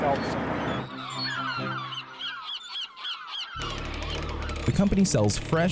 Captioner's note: seagulls squawking